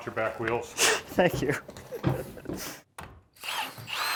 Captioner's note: laughing